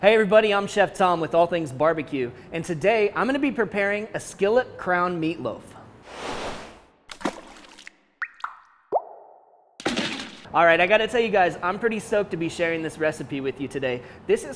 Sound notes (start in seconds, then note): 7.0 splashing; 7.1 dripping